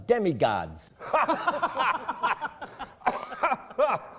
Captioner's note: laughing